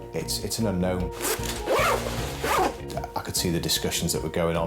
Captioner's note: zipper rasps